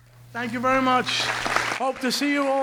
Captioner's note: audience clapping